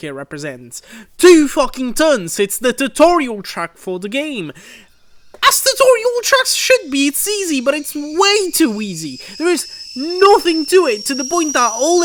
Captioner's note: boiling Kettle